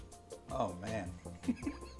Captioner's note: chuckling